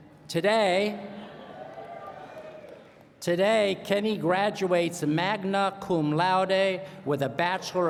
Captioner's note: cheering